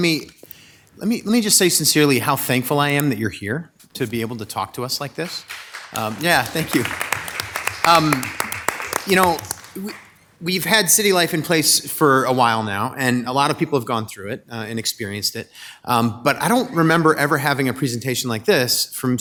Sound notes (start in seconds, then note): 4.7 audience applauding